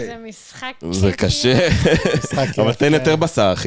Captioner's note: laughs